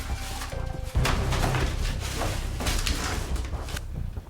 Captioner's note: papers rustling; dramatic music